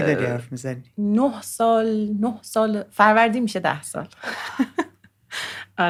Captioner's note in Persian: خنده